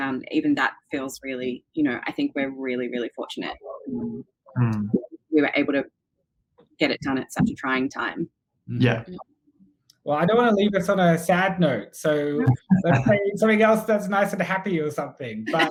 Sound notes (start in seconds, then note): 12.7 laughs